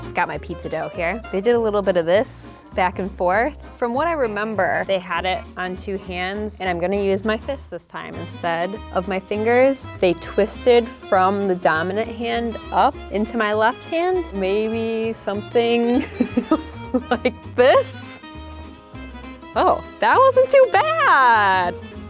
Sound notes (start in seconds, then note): 15.9 laughs